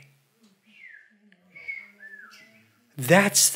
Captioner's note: audience whistles